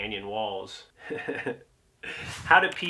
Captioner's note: laughs